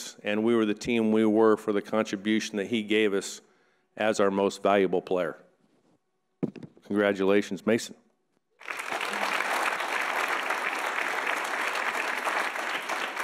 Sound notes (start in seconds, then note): 8.6 audience applauds